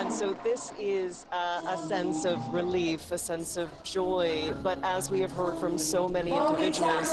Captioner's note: audio over reporter